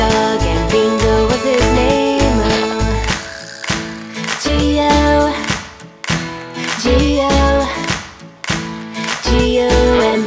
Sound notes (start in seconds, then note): 3.0 Wally claps